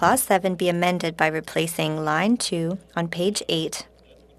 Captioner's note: speaking French